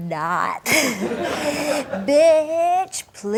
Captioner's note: audience laughs